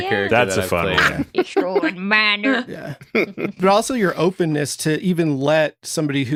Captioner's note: ‘Stroid Miner voice